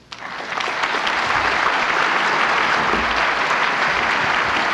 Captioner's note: applause